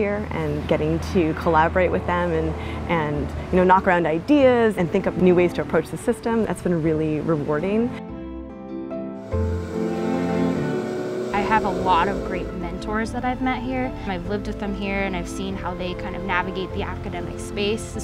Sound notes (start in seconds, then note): 9.2 motor engine revving